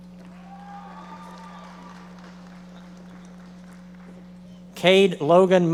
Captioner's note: audience members applauding